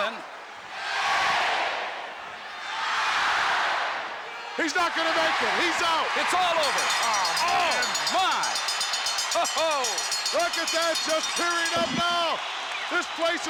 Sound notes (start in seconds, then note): 6.5 bell rings; 7.6 crowd cheers